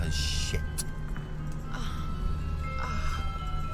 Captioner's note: moans